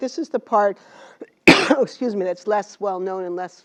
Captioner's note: cough